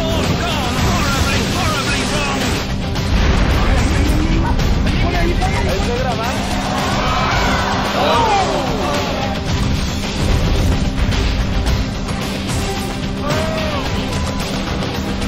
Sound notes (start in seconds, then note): 2.9 conversing in spanish; 6.0 spectators groan